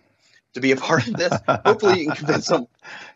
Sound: laughter

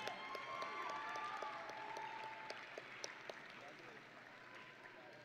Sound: audience and graduates cheering

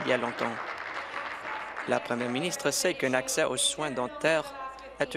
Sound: applause

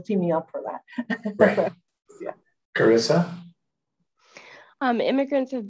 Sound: laughing

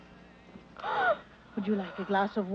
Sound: Anne gasps

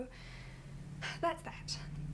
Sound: H breathes out

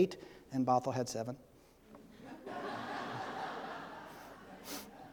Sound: audience laughing

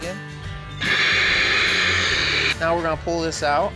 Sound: machine running

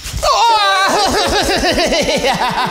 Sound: screams and laughs

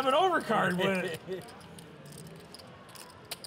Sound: laughs

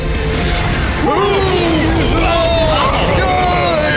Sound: screams from tanks

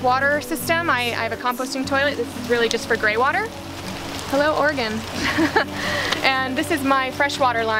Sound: laughter

